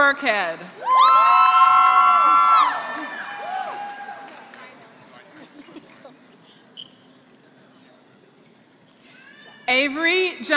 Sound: applause

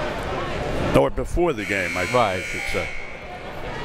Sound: mumbles

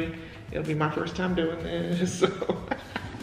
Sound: laughs

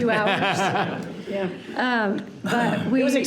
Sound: people laughing

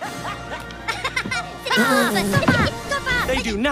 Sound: Stuart Laughing

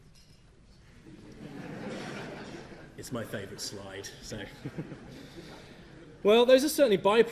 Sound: audience laughs at image displayed

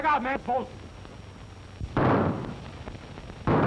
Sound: gunshots

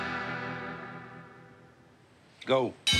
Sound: bell rings

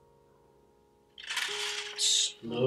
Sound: paper rustling

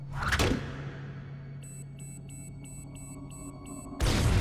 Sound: beeping; explosion

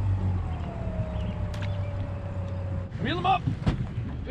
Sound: boat engine idling

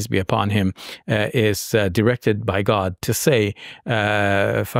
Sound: speaking in Arabic

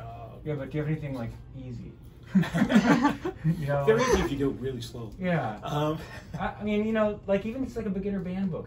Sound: laughter

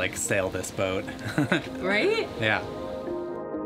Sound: laughs

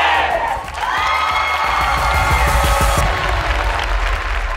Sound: audience cheering

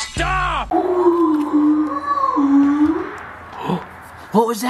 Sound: moose groaning

